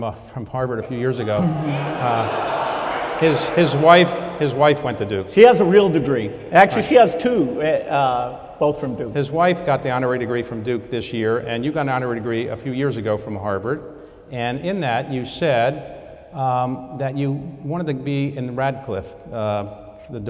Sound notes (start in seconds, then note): 1.1 audience groans